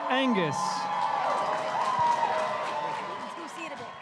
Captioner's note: crowd cheering and applauding